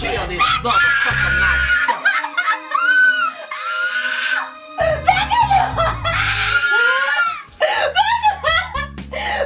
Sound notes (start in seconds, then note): 4.2 Mary screams